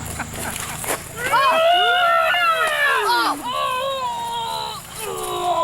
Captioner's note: laughs; screaming